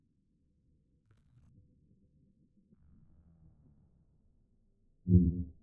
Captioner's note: silence